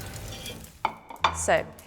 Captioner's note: spoon scraping